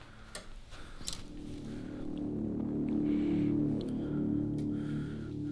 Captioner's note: man breathing